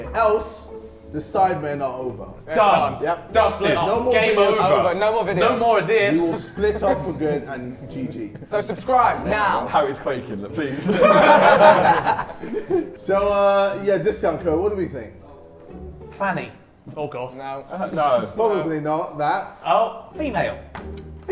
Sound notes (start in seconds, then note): 10.5 Sidemen laughing